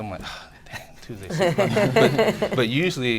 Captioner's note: laughter